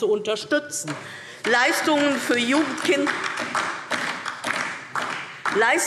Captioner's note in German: Beifall DIE LINKE